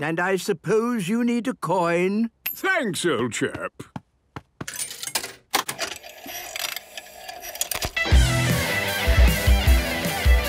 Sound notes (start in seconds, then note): 5.5 clicks, whirring; 8.0 heavy metal music plays